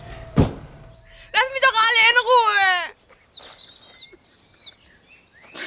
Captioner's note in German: Weint